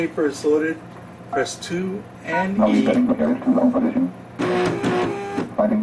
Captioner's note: machine voice mumbling; machine printing